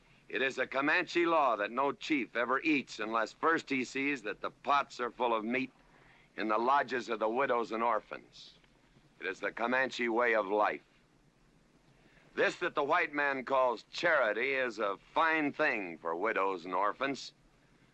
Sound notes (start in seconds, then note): none